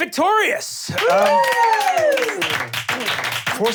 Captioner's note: cheering